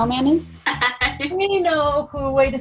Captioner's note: laughter